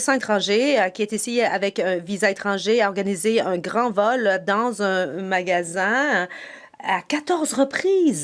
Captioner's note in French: voix de l'interprète